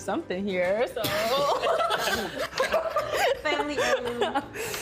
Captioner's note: laughing